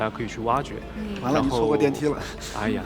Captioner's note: laughs